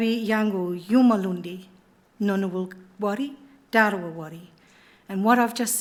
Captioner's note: speaking in Ngunnawal language